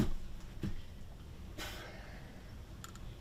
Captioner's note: hard breathing